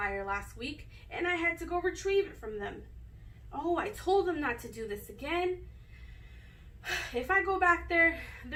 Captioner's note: sigh